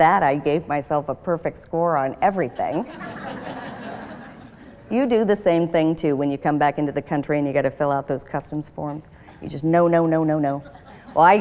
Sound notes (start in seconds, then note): 2.5 laughter